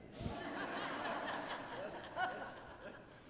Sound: laughing

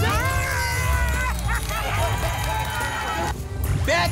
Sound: applause and cheering

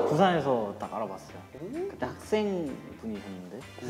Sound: speaking in Korean

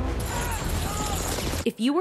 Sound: gun blasting; men groaning

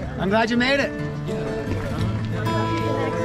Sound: people chattering

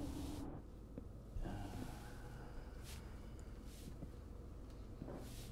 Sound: Cary groaning

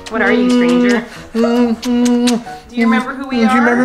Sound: kissing noises

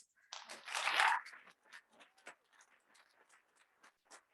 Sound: audience clapping

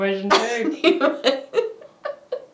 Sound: laughing

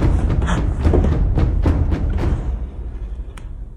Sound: gasps

